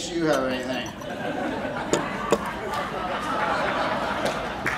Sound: crowd laughing

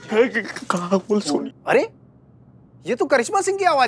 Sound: stuttering

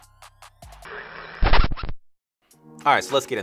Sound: image screeching

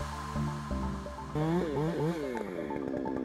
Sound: chainsaw grumbles

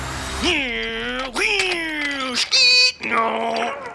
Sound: silly noises; phone ringing

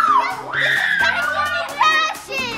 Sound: screams

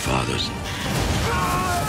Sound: screaming

